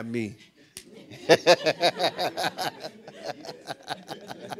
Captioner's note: laughing